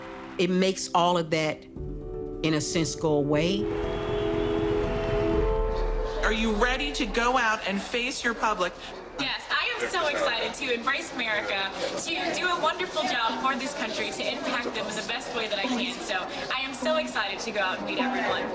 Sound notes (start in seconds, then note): 4.1 crowd cheering; 4.1 dramatic music